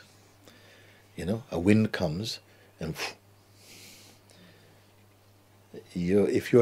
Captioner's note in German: starkes Pusten